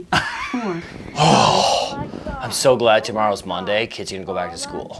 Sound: sighing

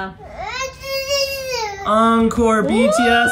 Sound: mumbling

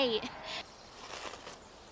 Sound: Monch

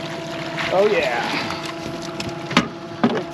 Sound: fish splashing

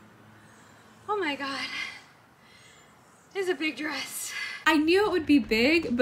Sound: out of breath

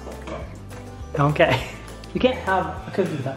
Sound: softly chuckles

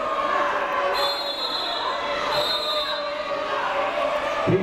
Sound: people shouting in the crowd; whistle tweeting

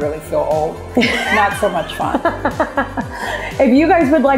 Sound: laughing

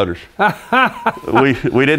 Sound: laughing

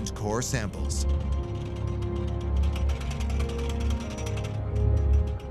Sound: pulley rattling

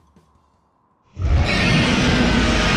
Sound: roars

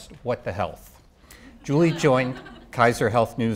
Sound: audience laughing

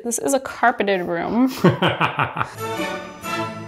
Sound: laughing; classical music intensifies

